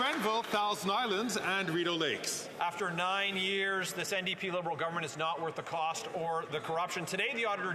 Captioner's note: some Applause